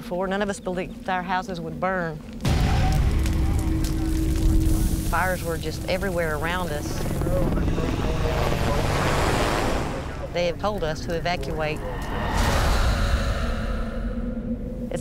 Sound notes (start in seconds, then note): 2.4 thunder; 4.4 crackling; 6.8 whoosh; 7.1 whirring; 12.2 ominous whoosh